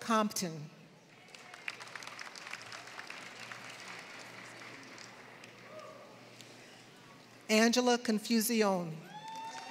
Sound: applause; applause

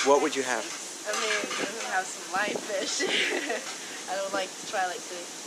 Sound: laughs

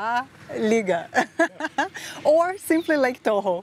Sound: laughs

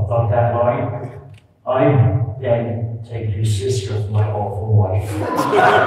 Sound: laughter

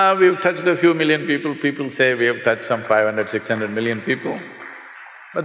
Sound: applause

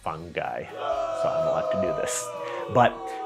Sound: audience booing

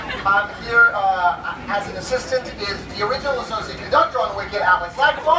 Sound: cheers

